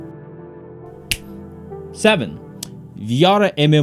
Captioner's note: fingers snap